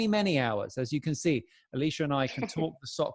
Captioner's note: chuckles